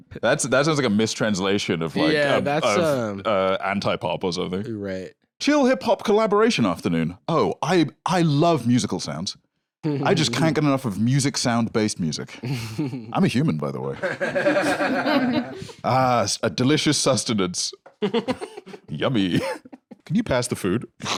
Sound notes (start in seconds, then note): 13.9 others laughing; 18.0 giggles